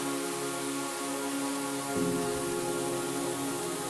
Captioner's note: shower splashing; soft music